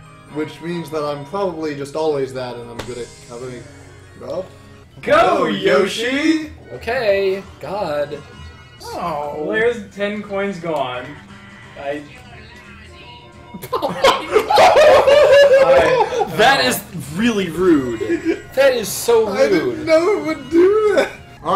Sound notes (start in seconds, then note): 13.5 all except crack up